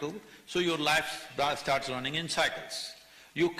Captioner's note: none